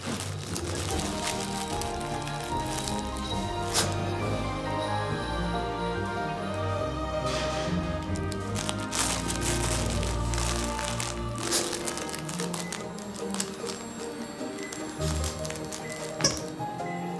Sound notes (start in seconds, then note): 0.6 jingling; 4.3 oven beeps; 15.2 squeak